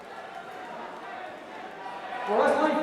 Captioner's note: crowd chatter